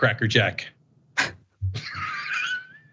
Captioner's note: laugh